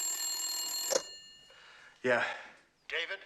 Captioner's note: ring